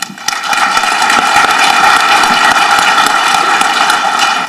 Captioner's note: audience clapping